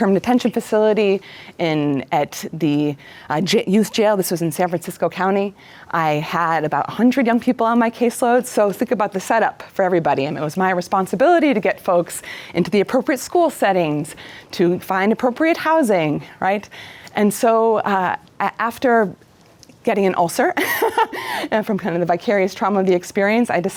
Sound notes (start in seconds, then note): 20.6 laughs